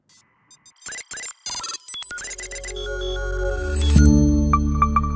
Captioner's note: electronic beeping